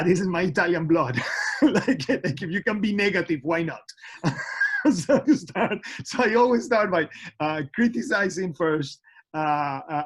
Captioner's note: laughter